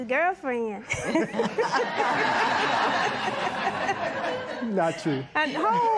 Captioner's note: laughter